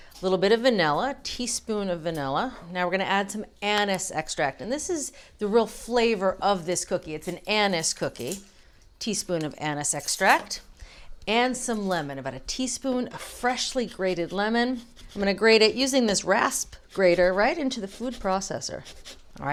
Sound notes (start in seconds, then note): none